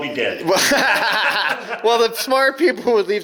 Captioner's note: laughing